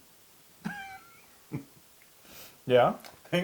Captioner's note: laugh